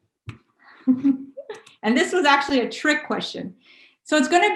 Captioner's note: laughs